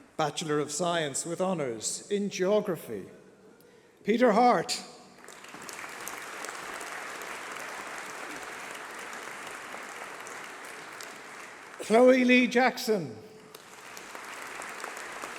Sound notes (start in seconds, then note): 13.2 applause